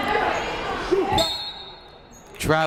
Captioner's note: whistle blows